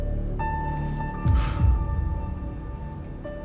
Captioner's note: sighs